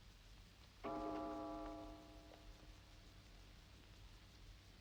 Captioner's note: clock chiming